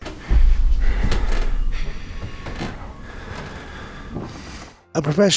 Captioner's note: floor board clicks